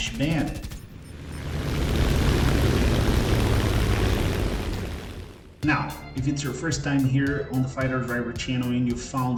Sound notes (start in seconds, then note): 0.0 aircraft Engines ,Gunfire, Flying Sounds